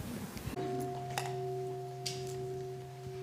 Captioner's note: bell